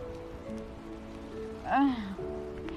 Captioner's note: groaning